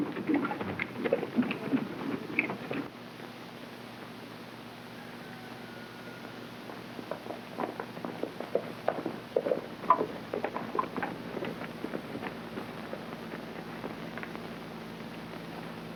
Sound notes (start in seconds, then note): 4.8 rooster crowing; 7.6 hooves clopping